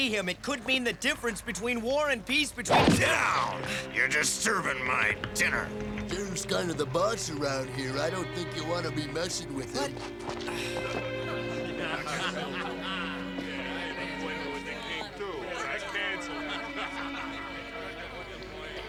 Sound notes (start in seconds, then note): 2.9 gasps; 9.9 sighs; 10.6 laughter